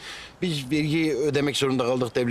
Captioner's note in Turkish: none